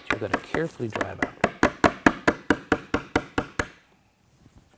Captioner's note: tapping